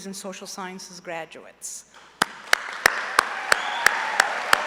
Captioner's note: applause